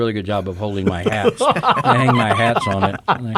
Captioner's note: men chuckle